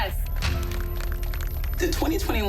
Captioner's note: clapping